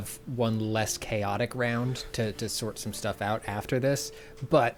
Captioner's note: pat